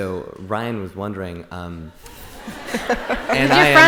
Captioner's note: laughter